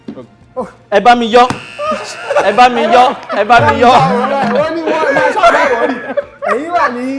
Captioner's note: buzzer pressed